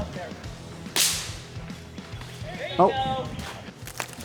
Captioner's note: weapon blasting